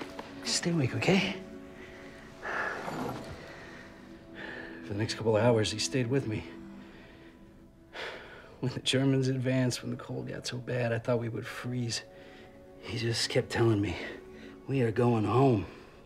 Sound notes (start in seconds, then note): 1.4 breathing heavily